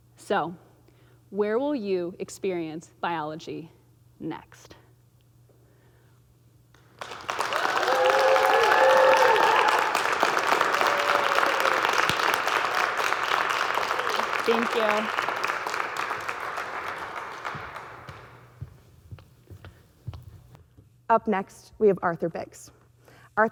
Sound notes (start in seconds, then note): 7.2 audience cheering; 7.2 audience clapping